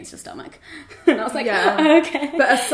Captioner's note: laughs